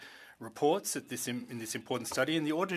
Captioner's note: speaking French